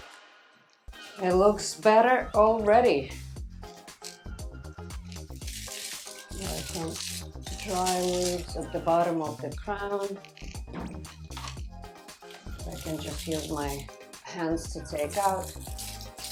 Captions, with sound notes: It looks better already. (leaves rustling) Dry leaves at the bottom of the crown, I can just use my hands to take out.